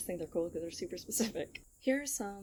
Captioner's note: chuckles